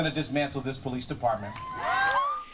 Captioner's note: cheering and applause